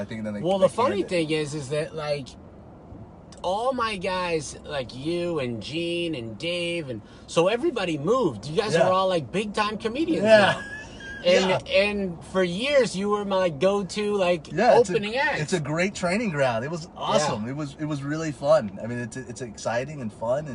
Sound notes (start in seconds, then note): 10.2 laughing